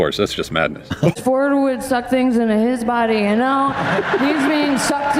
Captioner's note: slurring words